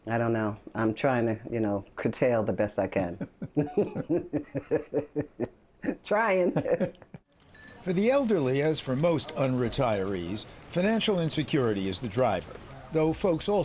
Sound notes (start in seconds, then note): 6.1 laughter